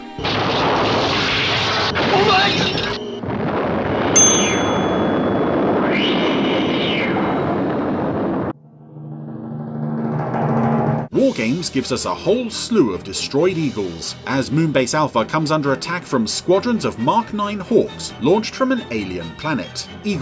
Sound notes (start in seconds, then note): 0.1 loud crashing; 4.1 bell dings; 5.7 air whooshing; 8.4 intense music